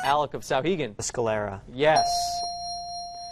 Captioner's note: dinging